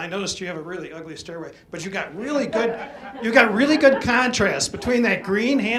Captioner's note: audience laughs